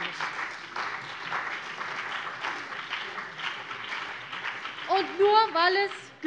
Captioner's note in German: Beifall CDU und BÜNDNIS 90/DIE GRÜNEN